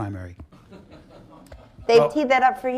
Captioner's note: laughter